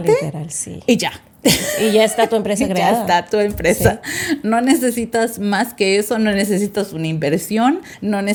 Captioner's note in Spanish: risas